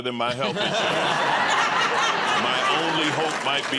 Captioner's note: laughter